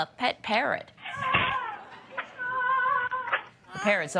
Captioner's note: screaming